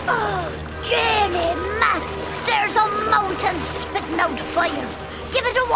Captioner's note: gasping